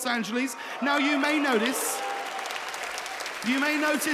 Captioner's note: audience cheering